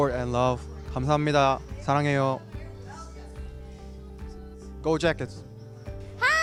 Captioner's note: non-english